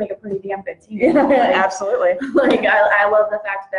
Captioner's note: chuckles